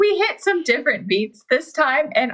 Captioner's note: laughing; laughs